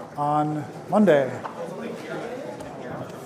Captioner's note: indistinct chatter